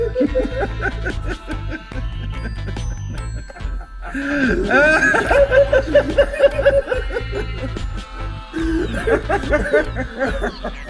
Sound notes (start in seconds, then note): 0.0 Murdoc starts cackling; 0.0 2D does a high pitched giggle; 3.3 Murdoc laughing; 4.0 gasps for air; 4.6 2D wheezing and giggling; 8.5 2D wheeze giggling; 8.5 gasps for air; 8.5 Murdoc laughing